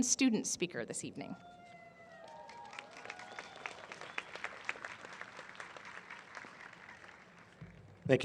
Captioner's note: applause